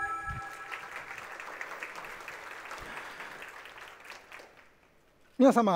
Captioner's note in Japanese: 拍手の音